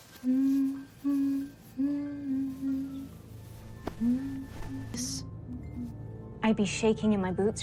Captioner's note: humming